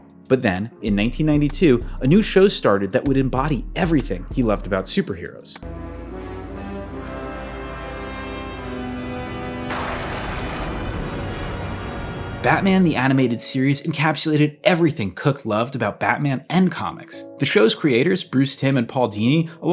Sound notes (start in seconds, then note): 5.6 suspenseful music; 10.2 thunder crackles